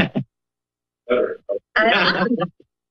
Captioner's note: laughter